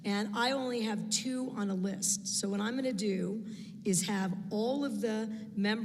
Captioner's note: none